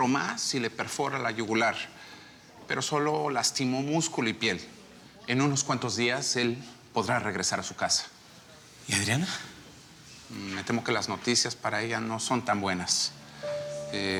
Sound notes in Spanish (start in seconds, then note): none